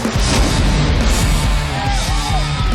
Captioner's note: crowd cheering